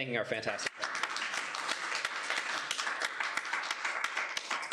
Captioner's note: applause